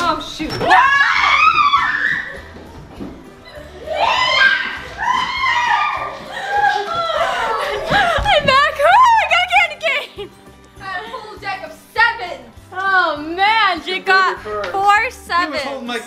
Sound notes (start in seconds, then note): 1.5 all screaming; 3.4 shrieking; 9.2 shrieks; 11.1 laughs